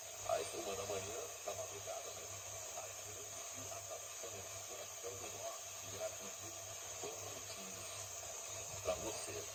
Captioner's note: loss of signal